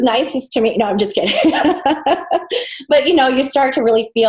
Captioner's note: laughs